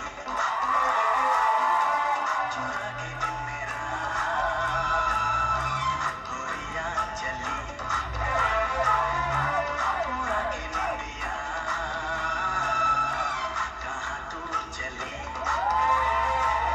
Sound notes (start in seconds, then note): 0.3 applause; 5.4 applause